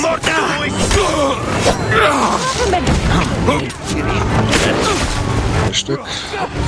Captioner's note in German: schreien